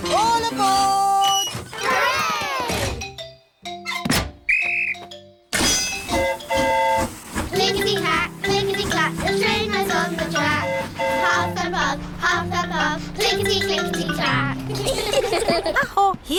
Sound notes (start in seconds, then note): 4.4 blows whistle; 4.5 train horn toots; 14.6 all giggle